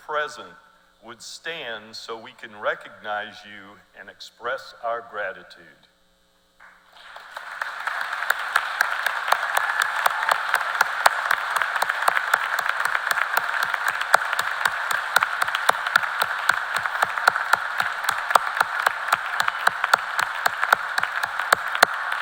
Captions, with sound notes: Forces assisting any anifying that they are members of the Armed Forces. We would be honored if all servicemen and women present would stand so we can recognize you and express our gratitude. [CHEERS AND APPLAUSE]